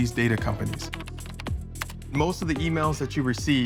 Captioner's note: keys clacking